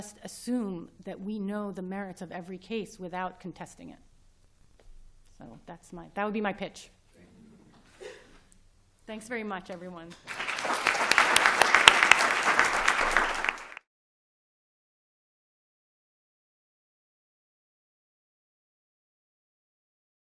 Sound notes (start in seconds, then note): 10.2 applause